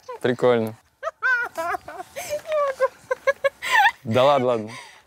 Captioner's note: laughs